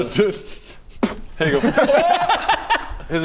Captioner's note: spit